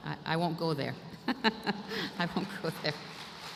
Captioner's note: laughter